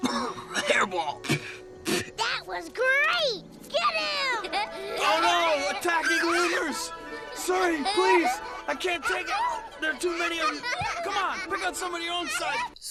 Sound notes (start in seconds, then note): 0.0 coughing